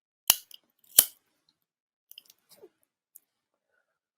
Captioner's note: lighter clicking